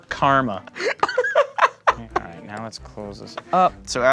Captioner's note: laughing